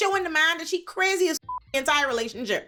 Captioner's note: beep